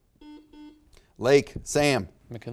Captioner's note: buzzer beeps beeps